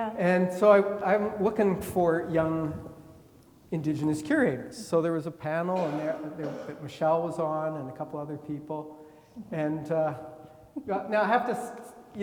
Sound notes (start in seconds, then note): 5.7 attendee coughing